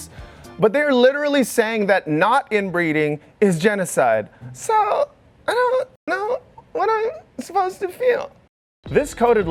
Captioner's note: high pitched squeal